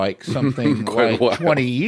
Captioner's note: laughs